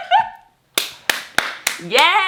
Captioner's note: laughs; claps